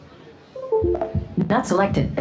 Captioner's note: computer chimes